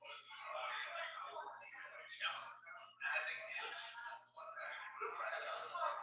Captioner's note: people chattering indistinctly